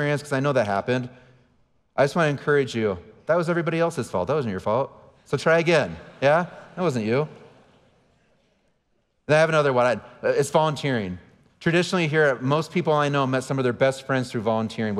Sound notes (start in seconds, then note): 5.6 audience laughing